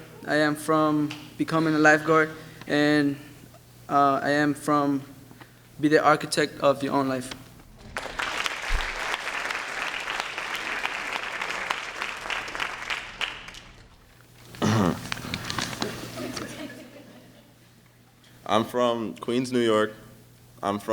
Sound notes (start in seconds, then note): 0.0 speaks a foreign language; 7.7 applause